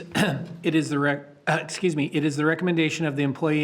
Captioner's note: coughs